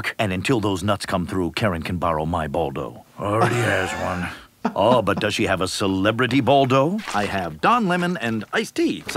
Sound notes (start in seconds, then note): 3.2 laughing